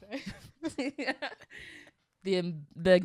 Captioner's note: chuckles